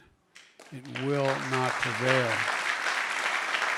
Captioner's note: applause